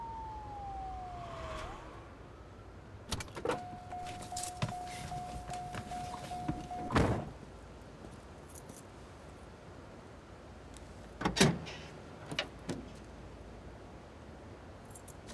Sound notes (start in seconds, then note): 3.1 open car door beeping